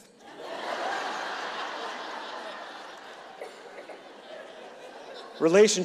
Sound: audience laughing

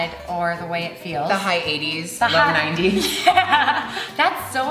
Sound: laughs

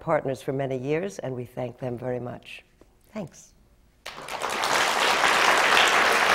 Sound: applause

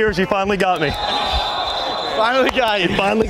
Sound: whistle

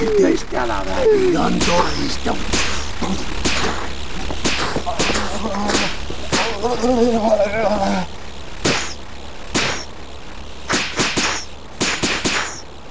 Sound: gunshots

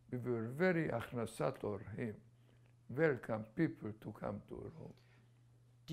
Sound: non-english

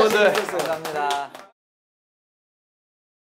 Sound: clap clap clap clap clap clap

